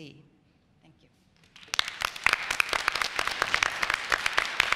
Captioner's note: applause